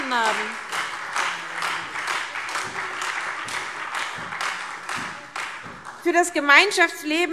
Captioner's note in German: Beifall SPD, AfD und Freie Demokraten